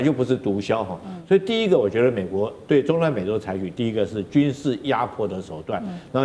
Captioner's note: in Taiwanese